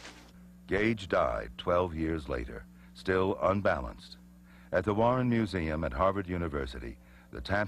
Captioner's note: none